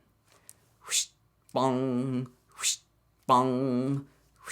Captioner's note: makes bow noises